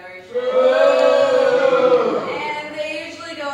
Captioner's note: boos